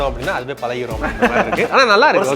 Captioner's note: laughs